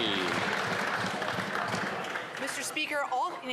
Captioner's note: some Applause